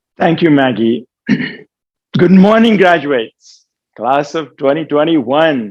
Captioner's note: cough